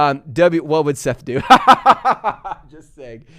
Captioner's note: laughs